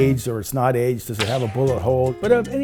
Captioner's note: shot ricocheting